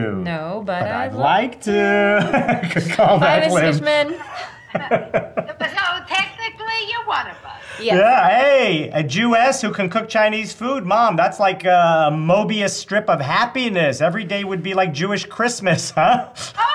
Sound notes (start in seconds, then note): 1.8 laughing; 15.9 chuckles